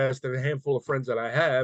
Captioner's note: none